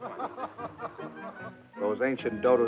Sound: laughing

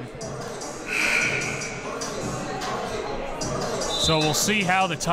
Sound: buzzer sounds

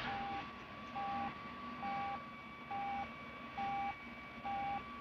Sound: beeping Continues

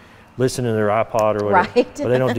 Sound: laughing

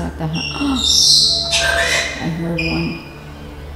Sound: bird squawks

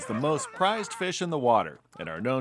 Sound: whooping

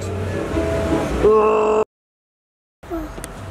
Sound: growls

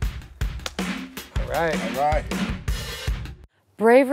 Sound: hand slap

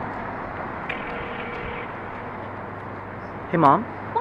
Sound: phone rings

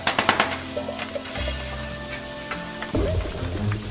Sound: calming music; food sizzles; suspenseful music

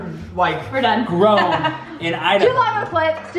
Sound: laughing

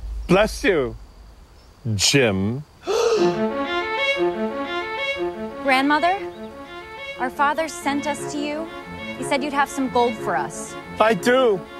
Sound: gasp

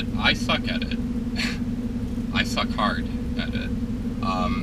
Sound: chuckling

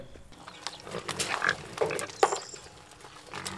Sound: pig grunting

